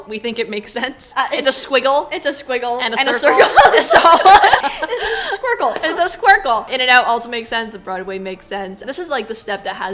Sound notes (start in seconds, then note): 3.1 laughs